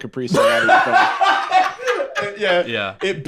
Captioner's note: laugh